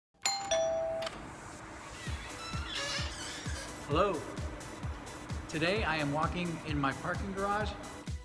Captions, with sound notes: (door bell ringing) - Hello, today I am walking in my parking garage.